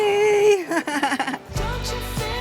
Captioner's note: laughs